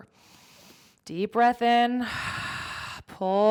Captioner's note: inhales deeply; exhales deeply